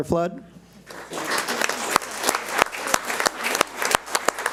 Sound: audience applauds

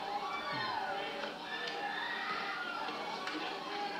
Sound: people screaming

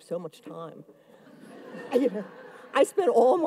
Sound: audience laughs

